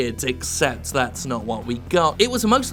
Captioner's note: none